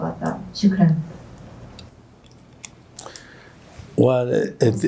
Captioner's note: non-english speech